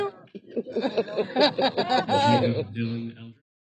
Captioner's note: laughing